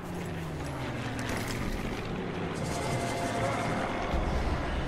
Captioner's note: airplane flying over head